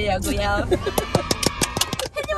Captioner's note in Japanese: 拍手！